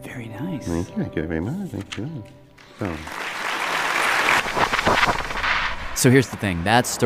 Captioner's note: applause